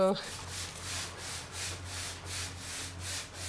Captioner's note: scratching wiping